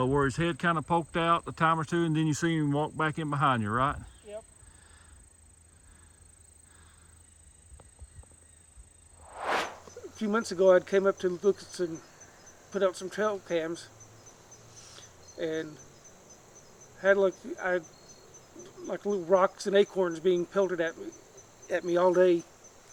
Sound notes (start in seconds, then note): 9.2 air swooshes